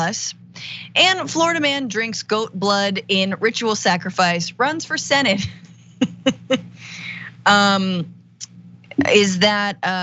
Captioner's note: laugh